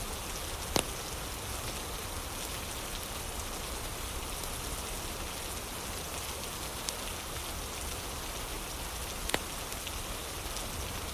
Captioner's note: fire crackling; fire crackling